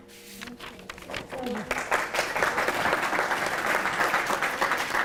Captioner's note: applause